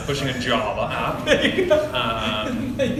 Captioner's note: laugh